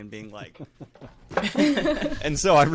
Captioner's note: all laughing